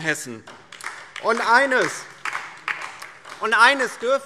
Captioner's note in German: Beifall